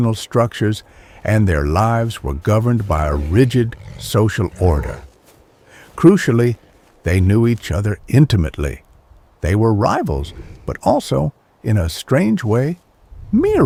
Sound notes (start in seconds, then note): 5.2 wolf growling